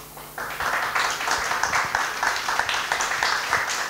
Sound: applause

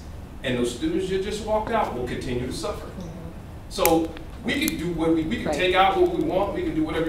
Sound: sound of agreement

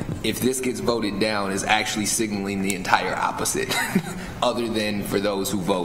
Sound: chuckles

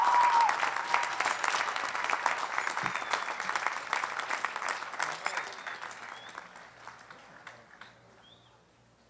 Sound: applause

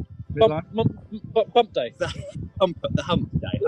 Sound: laughs

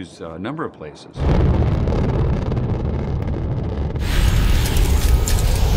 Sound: rumbling

